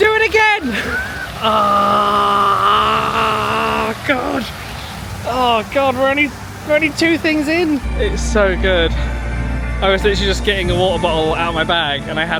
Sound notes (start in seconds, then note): 0.6 groans